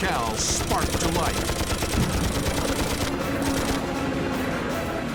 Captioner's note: guns firing